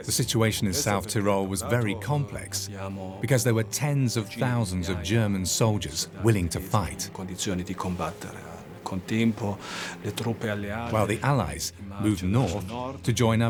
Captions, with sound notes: the situation in South Tyrol was very complex, because there were tens of thousands of German soldiers willing to fight. (speaks in foreign language) While the Allies moved north to join up